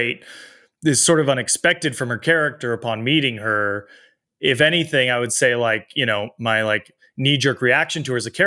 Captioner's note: none